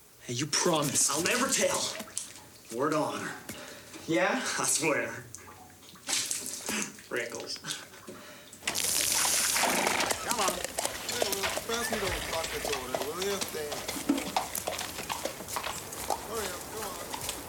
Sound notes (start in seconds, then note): 9.0 horse neighing; 9.0 water splashing; 11.9 light chattering